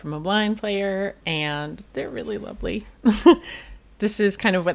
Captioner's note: laughs